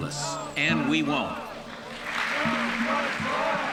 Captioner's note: applause